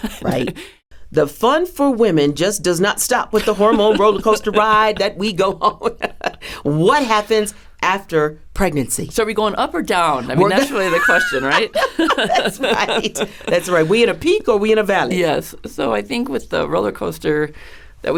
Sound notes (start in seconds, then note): 10.3 laughs